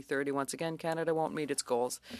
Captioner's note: speaking French